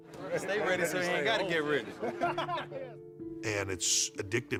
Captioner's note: group laughs